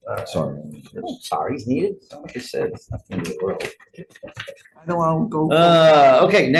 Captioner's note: speaking softly